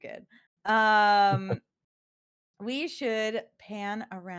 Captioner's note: laughs